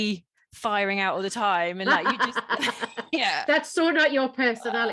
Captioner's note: laughs